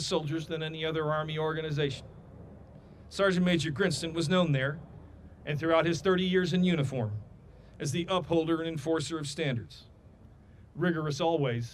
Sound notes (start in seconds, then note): none